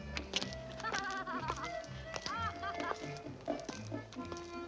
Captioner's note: woman laughs